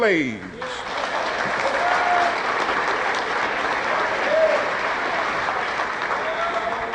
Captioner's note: audience applauding